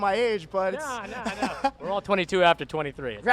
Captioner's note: laughing